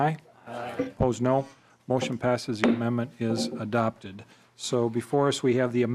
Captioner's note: chorus of ayes